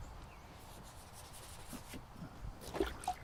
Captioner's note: brush scraping; water dunking